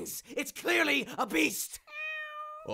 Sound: soulful meow

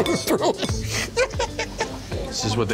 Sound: Jon laughing

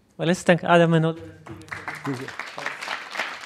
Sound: applause

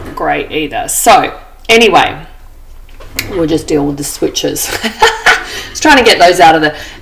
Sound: laughs

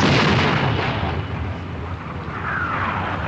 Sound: explosions Continue

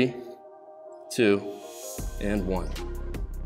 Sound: exhales loudly

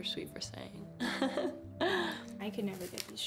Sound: laughing

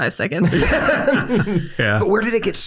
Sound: group laughs

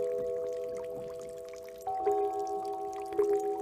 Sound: sound of water

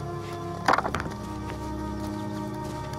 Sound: dropping rock

